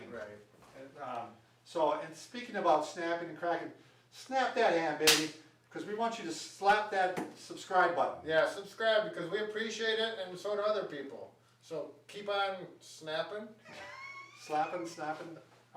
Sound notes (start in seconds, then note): 5.0 hands clapping; 13.6 laughing